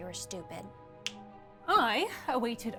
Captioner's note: snaps